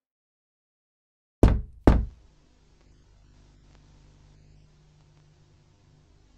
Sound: person knocks on door; static hums

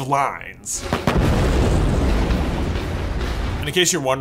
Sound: explosion

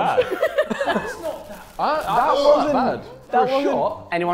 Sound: Sidemen and Becky laughing

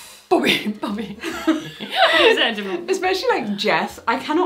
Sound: both laugh

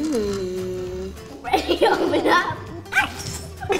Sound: laughing

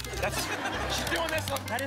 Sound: laughter

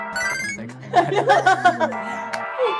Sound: laughs

